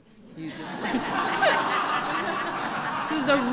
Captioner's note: laughter